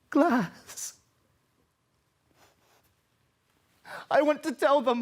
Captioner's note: silent